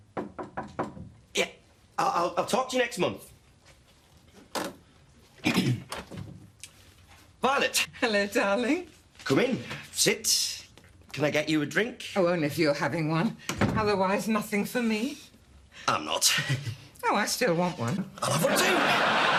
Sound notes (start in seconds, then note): 0.0 knock on door; 5.4 clears throat